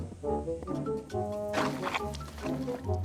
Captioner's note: curious music; clothes squishing